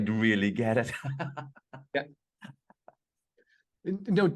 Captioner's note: laughs